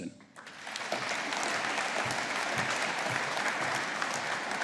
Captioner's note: audience applauding